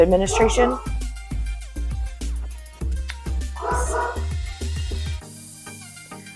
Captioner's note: dog barking again